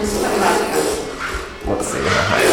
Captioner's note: metal scraping